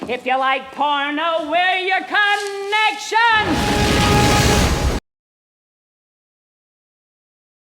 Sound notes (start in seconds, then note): 3.4 bursting flame